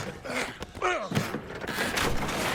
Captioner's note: grunt